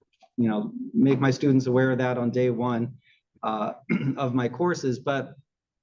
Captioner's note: cough